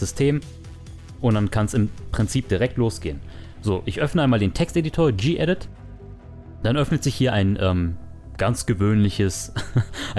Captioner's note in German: haha